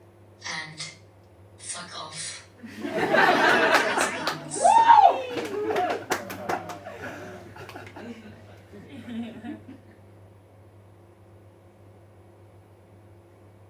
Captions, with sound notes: And... Fuck off. (Audience laughs, claps and woos)